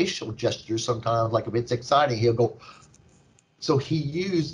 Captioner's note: gasps